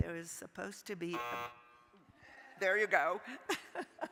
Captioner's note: timer buzzing; laughing